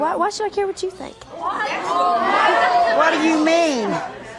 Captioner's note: audience hollering